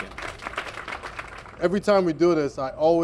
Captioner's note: applause